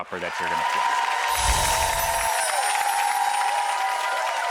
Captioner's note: cheering